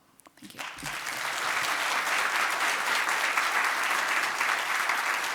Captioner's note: audience applauding